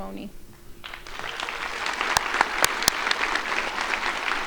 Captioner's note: crowd applauding